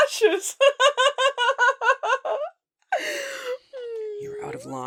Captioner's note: The Jester laughs and finds this all amusing